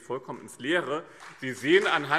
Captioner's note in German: Beifall BÜNDNIS 90/DIE GRÜNEN und CDU